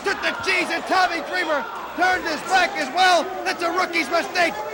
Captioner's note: crowd chatter